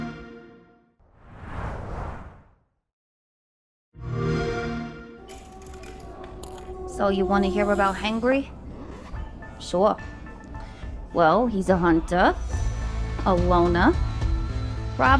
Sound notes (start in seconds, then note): 3.4 xbox sound